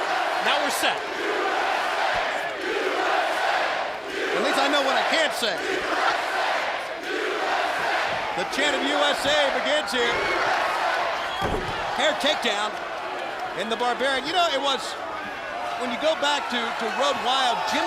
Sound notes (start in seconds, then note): 3.6 crowd cheering; 7.5 crowd cheering; 10.8 crowd cheering